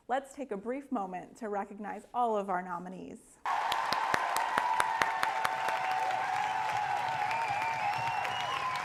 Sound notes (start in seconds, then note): 3.4 applause